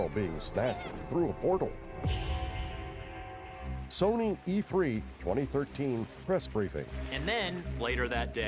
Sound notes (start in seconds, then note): 4.0 cheering